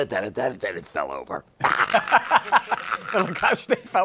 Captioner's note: laughter